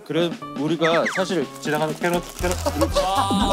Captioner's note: rustling